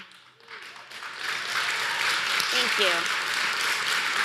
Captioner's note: applause